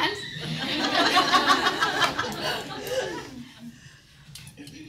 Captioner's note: audience laughing